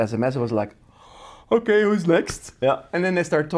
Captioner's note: yawns